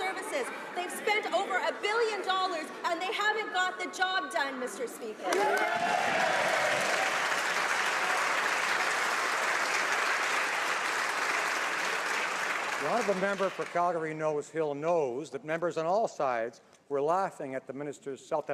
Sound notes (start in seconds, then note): 8.8 some Applause